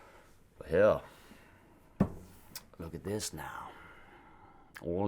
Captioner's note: sighs